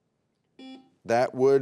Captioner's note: beep